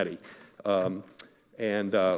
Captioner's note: none